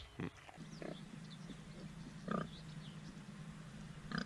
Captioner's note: pigs grunting